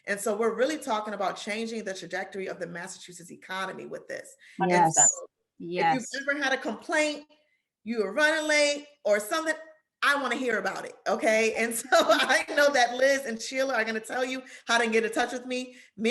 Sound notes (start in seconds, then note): 11.8 laughter